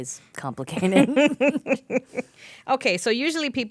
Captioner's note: laughing